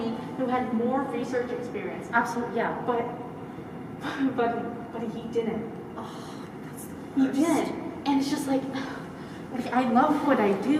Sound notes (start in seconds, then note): 3.1 sigh